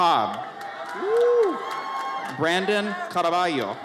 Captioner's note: audience cheers